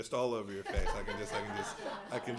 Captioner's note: laughter